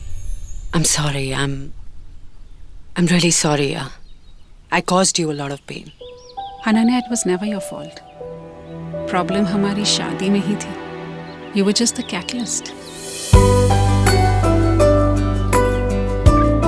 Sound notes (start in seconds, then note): none